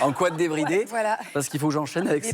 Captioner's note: laughter